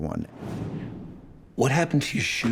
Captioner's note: logo whooshing